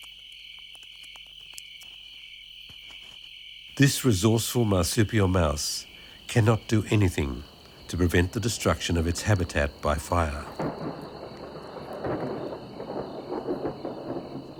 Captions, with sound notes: This resourceful marsupial mouse cannot do anything to prevent the destruction of its habitat by fire. (thunder rumbling)